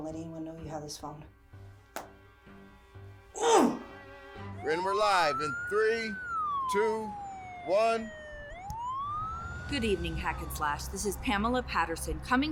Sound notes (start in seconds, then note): 3.3 Mrs. Macaw groans; 8.5 siren wailing